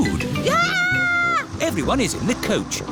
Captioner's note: shrieks